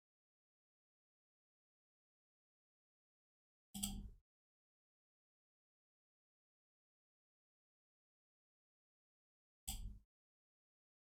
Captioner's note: blank Audio